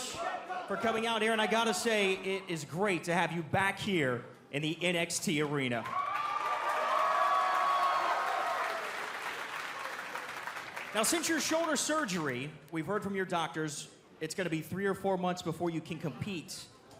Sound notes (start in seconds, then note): 7.7 cheers and applause